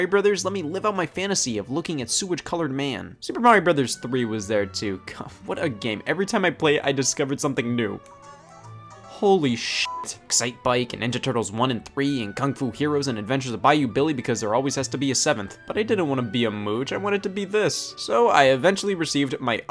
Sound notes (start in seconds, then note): 8.2 switch beeps; 9.8 beep